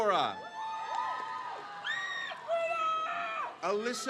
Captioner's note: crowd cheers